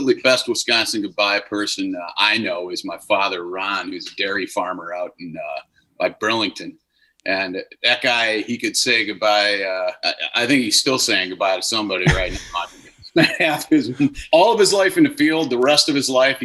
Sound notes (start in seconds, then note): 12.0 laughing